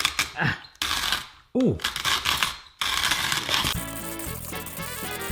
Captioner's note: crunching; lively instrumental music